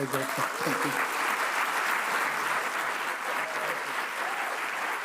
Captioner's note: audience applauds